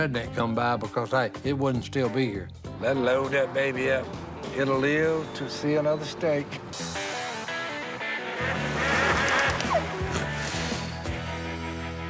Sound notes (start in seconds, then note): 6.1 guitar playing; 8.6 quacking; 9.1 whimpers